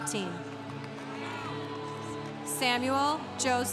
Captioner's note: congregation cheering